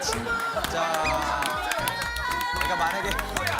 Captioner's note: Friends cheering for the"Bbu-Bbu" pose